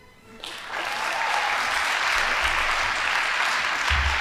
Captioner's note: audience applauding